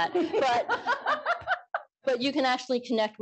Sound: laughter

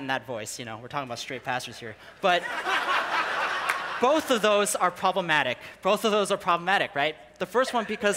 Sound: people laughing

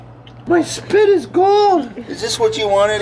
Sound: high voice

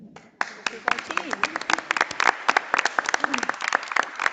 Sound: audience applauding

